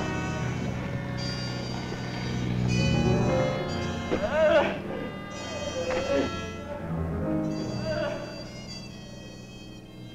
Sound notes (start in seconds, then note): 3.9 groaning